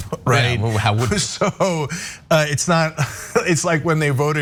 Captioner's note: laugh